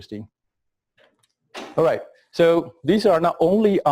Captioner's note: pause